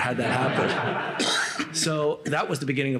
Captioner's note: laughter